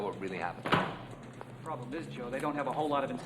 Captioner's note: bag clatters